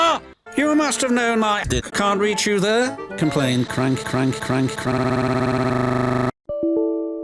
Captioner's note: glitches